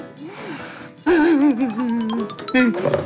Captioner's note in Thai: ร้องไห้